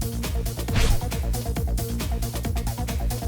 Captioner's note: whoopsh